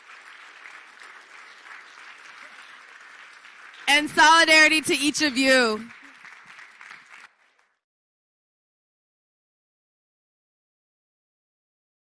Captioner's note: applause